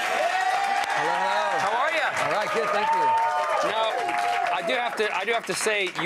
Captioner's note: applause